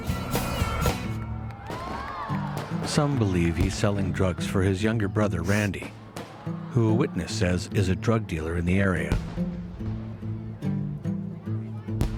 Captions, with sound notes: (crowd cheering) Some believe he's selling drugs for his younger brother, Randy, who, a witness says, is a drug dealer in the area.